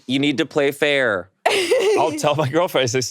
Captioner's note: laughing